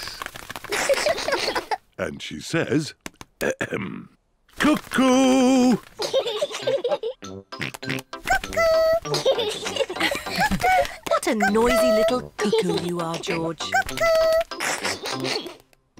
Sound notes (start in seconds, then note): 0.7 both laugh; 6.0 both laugh; 7.7 oinks; 9.0 both laugh; 14.9 laughs